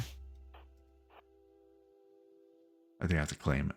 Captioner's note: silence